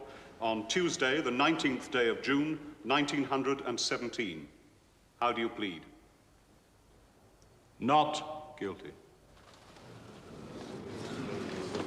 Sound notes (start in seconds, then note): 9.7 Para penonton bergumam